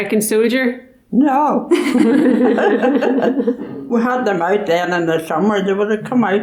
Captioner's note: laughs